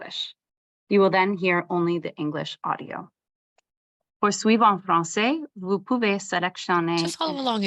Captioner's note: French